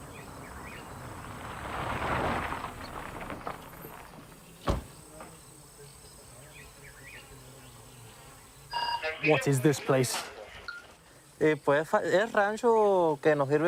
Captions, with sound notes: (VEHICLE PULLS UP) What is this place?